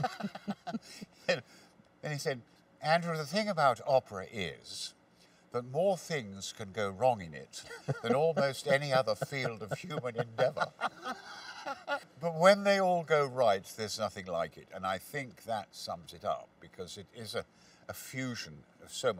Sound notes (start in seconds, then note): 0.0 laughs; 10.7 laughs